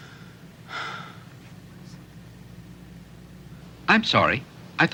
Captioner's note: Casey sighs